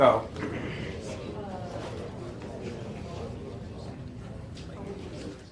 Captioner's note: class discusses